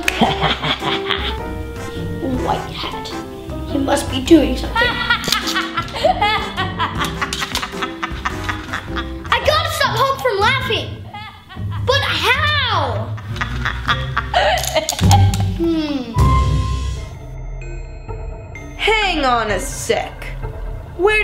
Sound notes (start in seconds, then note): 0.1 White hat laughs; 4.7 laughing; 12.9 laughing; 18.9 ominous music